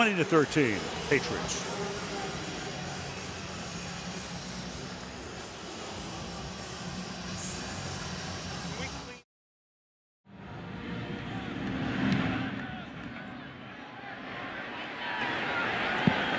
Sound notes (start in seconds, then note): 2.0 pa announcement